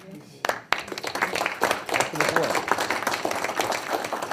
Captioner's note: people applaud